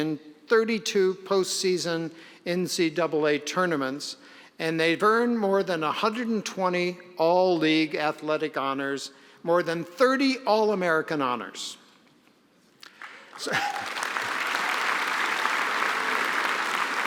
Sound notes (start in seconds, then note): 12.8 applause